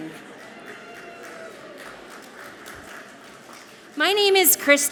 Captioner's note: audience clapping softly